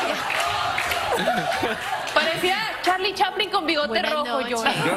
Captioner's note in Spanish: aplausos; risas